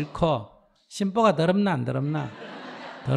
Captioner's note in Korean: 청중 웃음